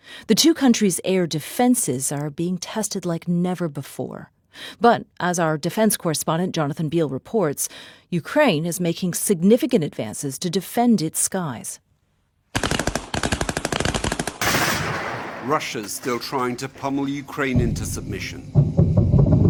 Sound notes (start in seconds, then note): 14.5 gunshots